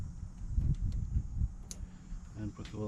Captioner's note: clicking